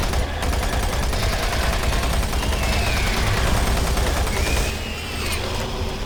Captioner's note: dramatic music; gunshots